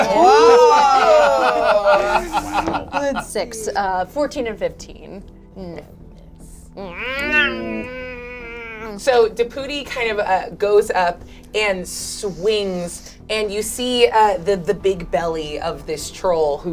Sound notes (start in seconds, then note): 0.2 all laugh; 6.9 imitates strangled growl